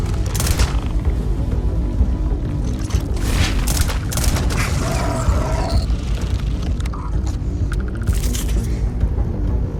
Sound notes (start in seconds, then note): 4.9 monster groaning